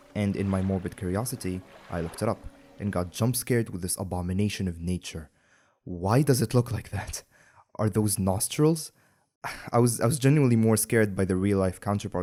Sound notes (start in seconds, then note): 8.7 sigh